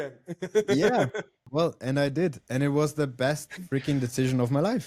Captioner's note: laughs